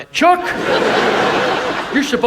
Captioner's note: audience laughs